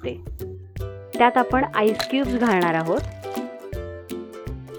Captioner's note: ice cubes dropped